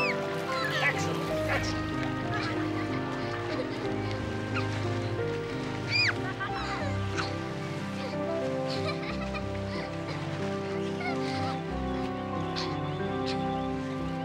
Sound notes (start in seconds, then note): 3.2 shrieks and water splashing